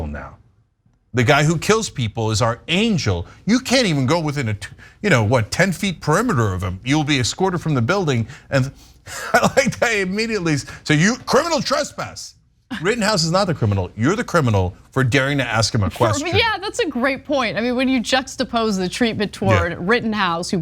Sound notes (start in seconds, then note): 8.7 laugh